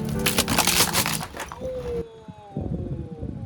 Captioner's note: cracking